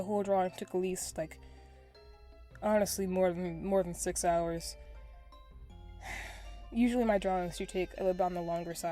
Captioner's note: sigh